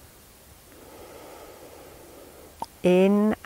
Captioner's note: inhaling